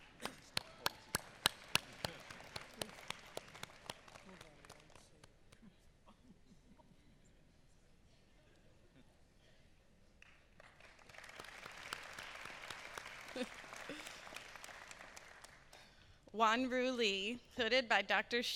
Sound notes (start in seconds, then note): 1.3 applause